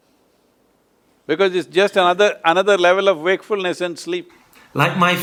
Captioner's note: laughs